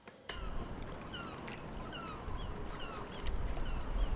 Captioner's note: seagulls